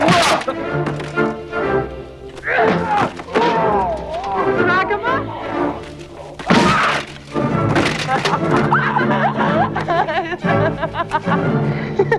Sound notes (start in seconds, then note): 0.2 man groans; 2.8 Hundra grunts; 3.3 man groaning; 6.6 man groans; 8.4 Hundra and tracima laughing